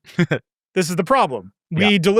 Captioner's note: laughing